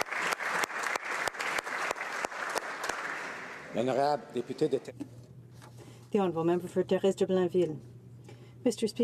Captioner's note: some Applause